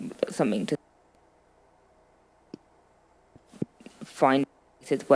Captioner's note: audio cutting out